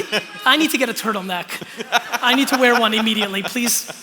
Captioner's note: laughter